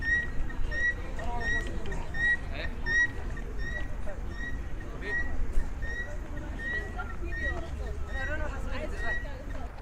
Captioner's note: sound of a guinea fowl